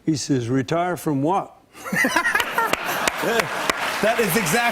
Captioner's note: laughter and applause